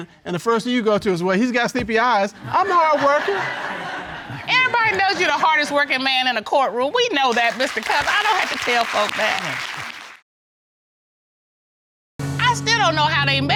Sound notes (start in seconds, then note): 2.3 audience laughs; 7.2 applause